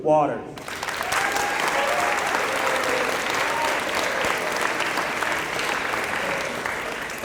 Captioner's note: applause